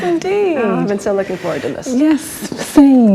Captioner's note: laughs